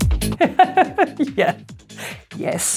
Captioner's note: laughs